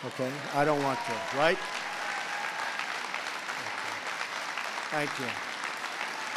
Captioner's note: applause